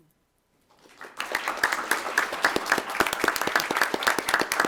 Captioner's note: attendees applauding